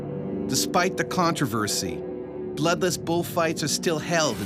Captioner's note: voiceover